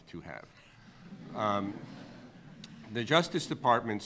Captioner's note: audience laughing